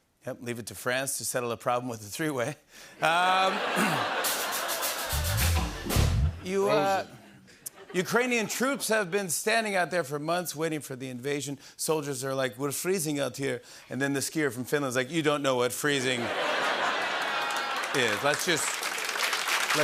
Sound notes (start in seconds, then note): 3.1 laughter; 5.4 rimshot; 7.6 laughter; 12.5 Slavic accent; 16.1 laughter and applause